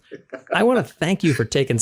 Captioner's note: laugh